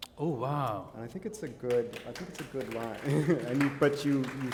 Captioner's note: applause; chuckle